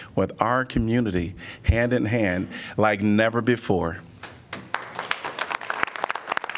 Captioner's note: applause